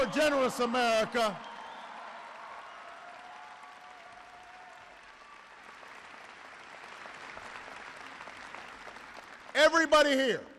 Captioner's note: applause